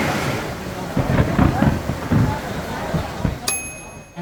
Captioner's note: thunder